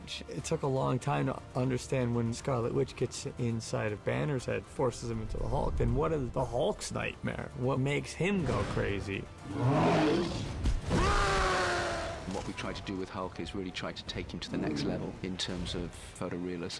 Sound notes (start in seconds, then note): 9.4 roars